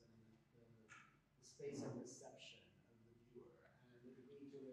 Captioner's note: faintly speaking